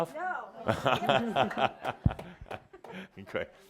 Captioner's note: Adamus chuckles